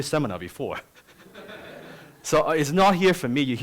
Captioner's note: laughter